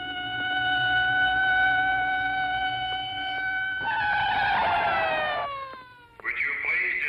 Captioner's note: siren